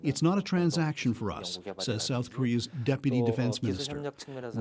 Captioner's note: speaking Alternate Language